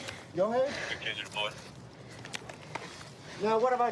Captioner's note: radio cahtter